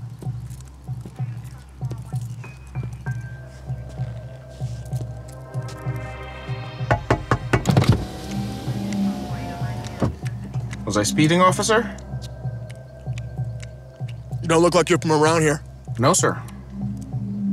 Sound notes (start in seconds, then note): 0.2 suspenseful music; 6.9 window tapping